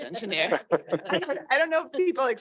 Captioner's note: laughter